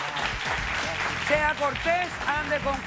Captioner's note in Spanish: Aplausos